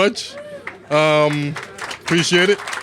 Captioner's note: applause